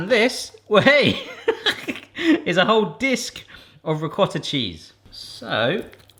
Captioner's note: laughing